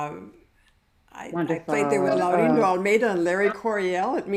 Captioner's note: overlapping exclamations